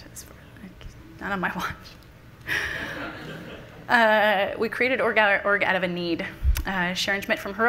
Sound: laughs

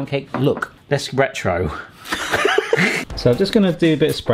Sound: they laugh

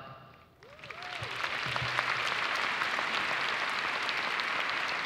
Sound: audience applauds

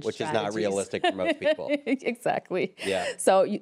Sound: laughs

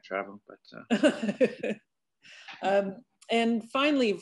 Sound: laughs

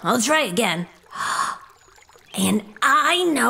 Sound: fly gasps

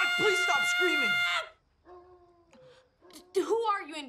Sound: dog howls

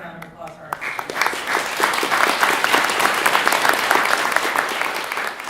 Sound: audience applauds

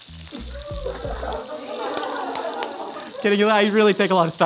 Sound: laughing

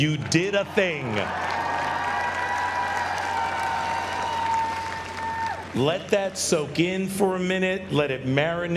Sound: applause

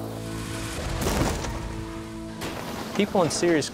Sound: car crashing

